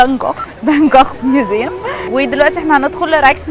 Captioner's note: giggles